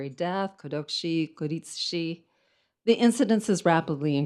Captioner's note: speaks in foreign language